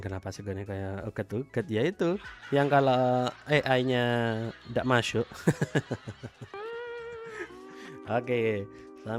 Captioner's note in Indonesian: tertawa